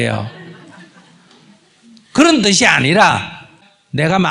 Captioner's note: audience Laughter